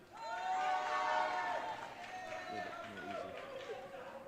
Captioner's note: audience cheering